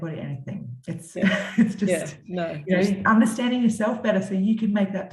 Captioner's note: chuckles